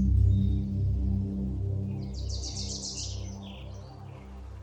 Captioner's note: birds chirping